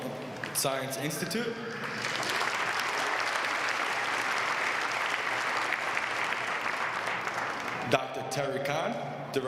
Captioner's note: applause